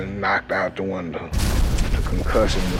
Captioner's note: bomb exploding